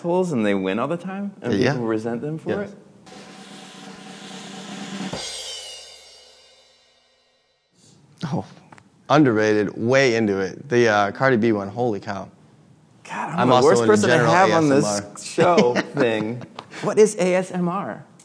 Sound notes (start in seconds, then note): 3.0 drum rolling; 15.2 laughing